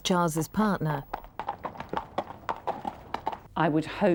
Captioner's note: horse trotting